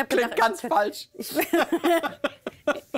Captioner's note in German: Beide lachen